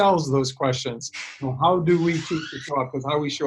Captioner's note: door creaking overwhelms speaker